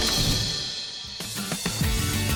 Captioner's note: camera click; upbeat music